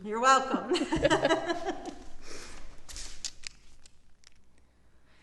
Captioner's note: both laughing